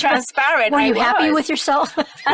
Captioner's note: all laughing